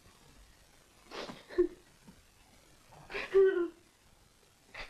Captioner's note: The Angel crying